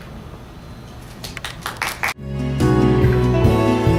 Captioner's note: applause